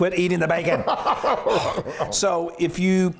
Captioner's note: laughing